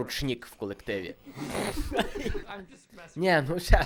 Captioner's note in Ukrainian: Сміх